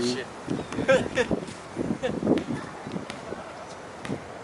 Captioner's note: laughs